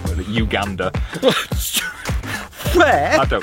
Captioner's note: laughs